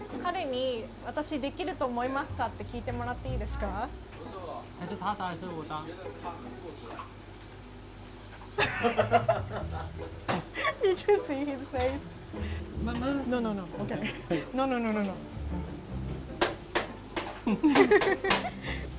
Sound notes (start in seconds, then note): 0.1 speaking in foreign language; 8.6 all laughing; 13.2 muttering; 17.4 both laughing